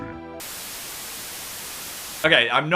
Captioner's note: white noise ringing